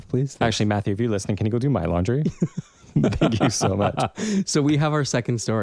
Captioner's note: laugh